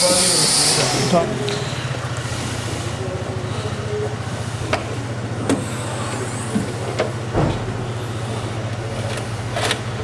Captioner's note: repair Noise